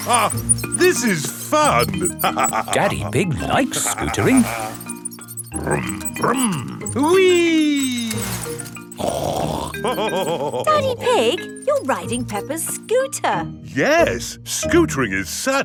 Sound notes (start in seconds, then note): 0.2 laughs; 9.4 snorts and laughs